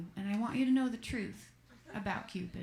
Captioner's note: laughter